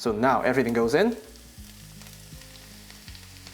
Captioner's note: sizzling